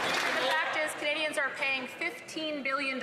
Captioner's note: some Applause